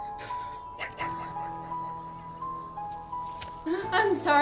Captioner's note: voices whisper "white" repeatedly; more "white" whispers